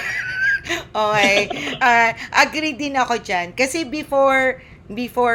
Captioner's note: laughter